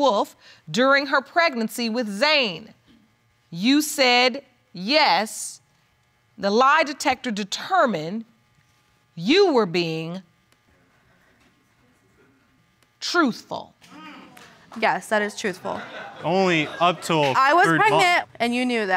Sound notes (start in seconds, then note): 12.4 scattered clapping; 15.5 audience laughs